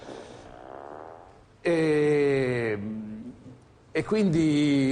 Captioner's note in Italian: rumore di peto